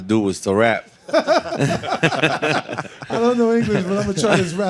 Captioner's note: all laughing